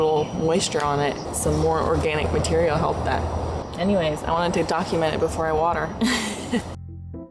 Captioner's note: laughter